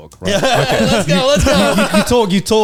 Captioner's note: laughs